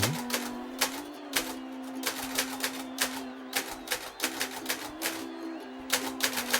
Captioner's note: typewriter keys clanking